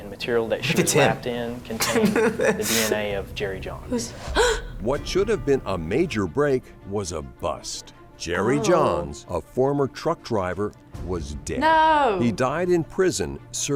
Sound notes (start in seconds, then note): 1.7 laughs; 4.0 gasps